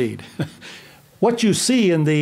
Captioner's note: laughs quietly